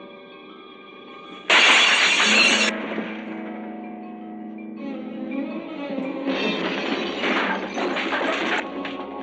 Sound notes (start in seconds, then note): 1.4 glass breaking